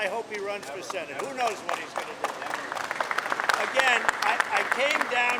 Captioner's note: applause